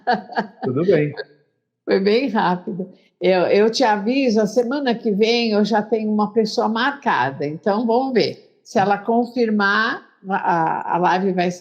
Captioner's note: Speaking Hebrew